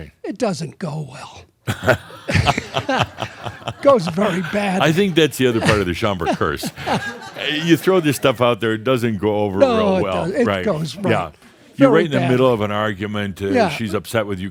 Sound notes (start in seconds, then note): 2.2 they laugh; 7.1 laughter